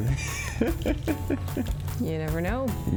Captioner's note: laughs